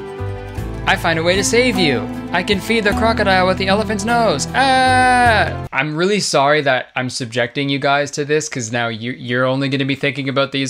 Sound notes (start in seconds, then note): 4.0 yells